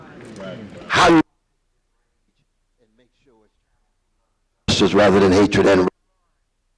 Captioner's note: audio cuts off